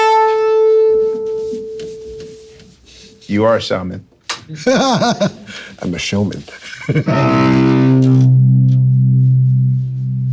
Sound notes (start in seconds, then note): 4.7 chuckling; 6.9 cello music